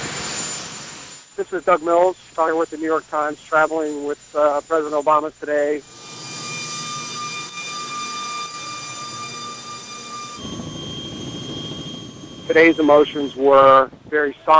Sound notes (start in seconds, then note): 2.9 airplane noise; 7.3 helicopter noise